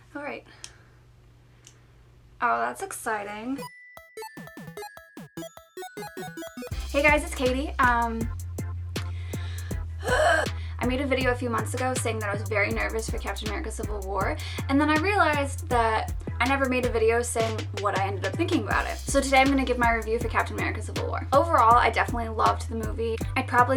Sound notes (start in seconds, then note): 3.6 musical video game beeps; 10.0 groans